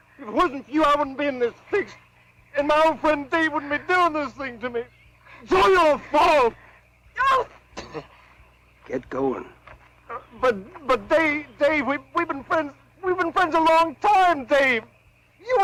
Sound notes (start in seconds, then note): 7.7 spits